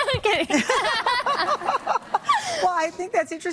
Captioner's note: laugh